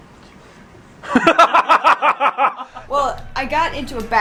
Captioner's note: quietly; laughter